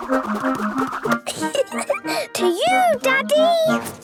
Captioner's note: giggling